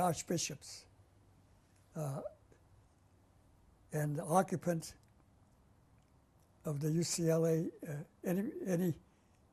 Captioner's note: pauses for 3 seconds